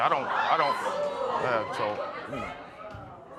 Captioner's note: audience murmurs